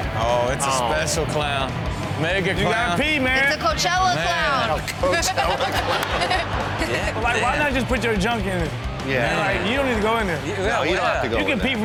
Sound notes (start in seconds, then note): 5.1 all laugh